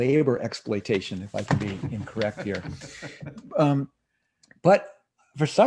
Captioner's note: laughs